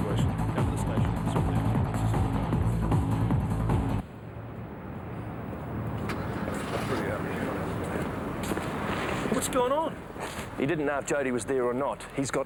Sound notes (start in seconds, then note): 1.1 faintly speaking